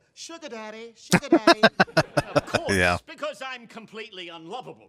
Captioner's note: laughing